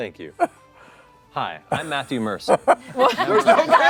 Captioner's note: laughter